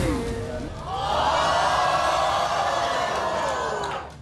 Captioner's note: gasping